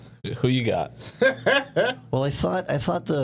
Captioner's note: laughing